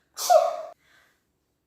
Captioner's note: sneezes